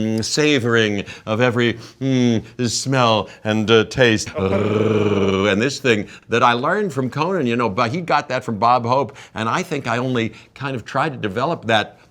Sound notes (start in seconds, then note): 2.7 Jeff imitating growling